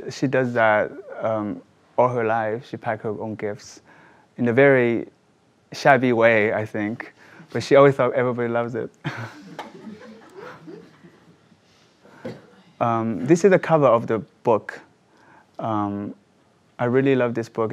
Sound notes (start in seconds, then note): 9.1 laughs; 9.2 audience laughs